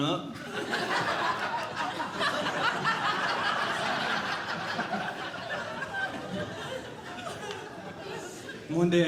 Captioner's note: audience Laughing